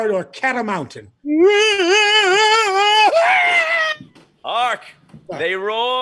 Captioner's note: screaming